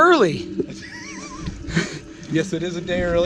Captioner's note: laughing